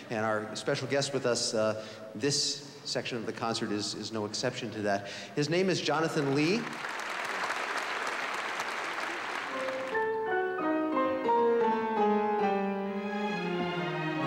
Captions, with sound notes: And our special guest with us this section of the concert is no exception to that. His name is Jonathan Lee. [APPLAUSE] [SYMPHONY MUSIC]